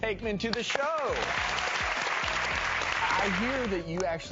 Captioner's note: applause